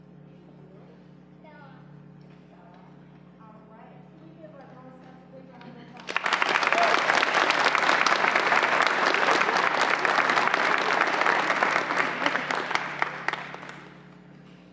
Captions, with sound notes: And you? Bella All right. Can we give our girl scouts a big round of applause? (applause)